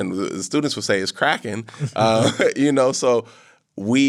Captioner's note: chuckles